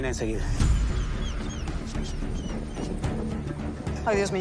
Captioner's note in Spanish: Gimoteos del perro